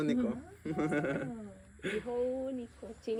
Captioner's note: laughter